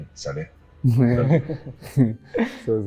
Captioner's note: giggles